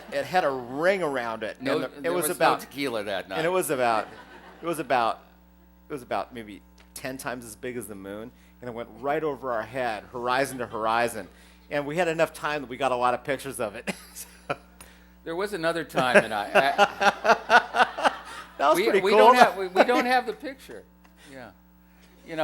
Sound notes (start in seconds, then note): 3.3 laughter; 16.0 laughter